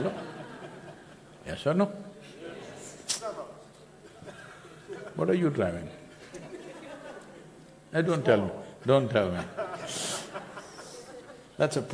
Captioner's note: few laugh